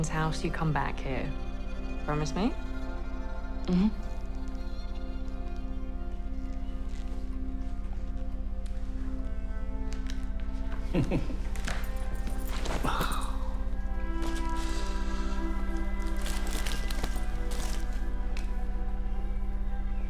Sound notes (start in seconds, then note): 10.8 Oscar chuckles; 12.8 Oscar sighs